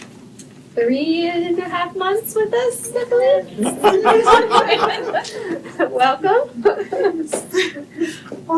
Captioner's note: laughter